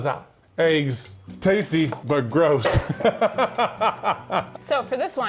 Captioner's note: laughs